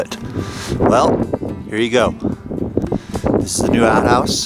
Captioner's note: wind blowing